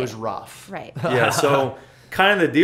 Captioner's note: laughter